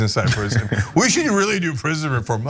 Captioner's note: laugh